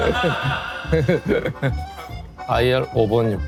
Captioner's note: giggling